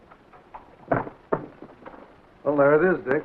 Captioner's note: suitcase lid thuds